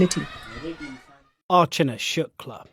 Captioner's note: speaking Gujarati